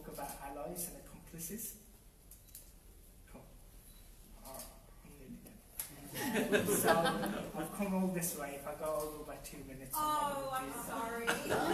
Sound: audience laughter

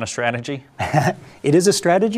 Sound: laughs

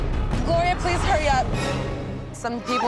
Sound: sobbing

